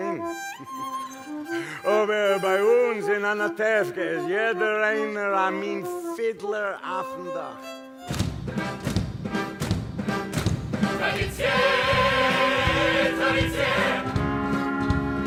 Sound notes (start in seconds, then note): 6.8 speaking yiddish